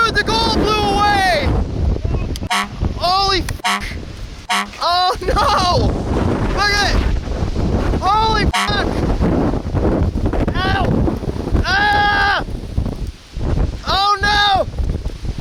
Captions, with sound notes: Dude the gold blew away! Holy (beep)! (beep)! Oh no! Look at it! Holy (beep)! (Boss screaming) Oh no!